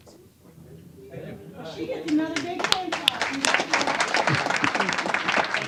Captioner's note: applause